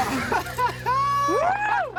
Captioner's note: laugh